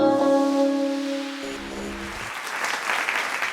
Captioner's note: applause